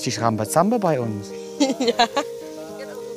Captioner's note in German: lacht